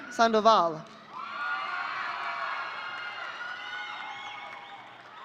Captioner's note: audience cheering